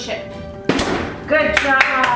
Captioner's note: oven door thuds